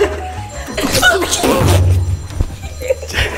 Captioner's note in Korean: 전화 벨소리; 놀라는 탄성; 들뜬 웃음